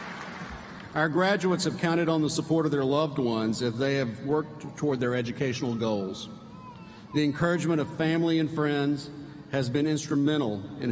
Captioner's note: applause